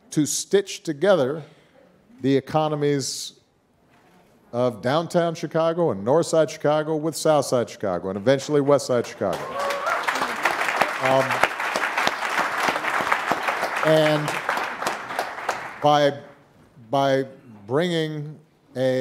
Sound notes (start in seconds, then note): 9.0 audience cheering and applauding